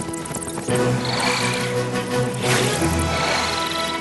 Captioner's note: chortling